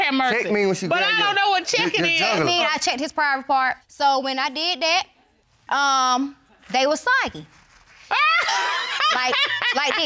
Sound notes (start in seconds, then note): 8.1 judge laughs